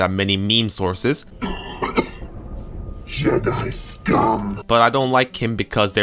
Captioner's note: cough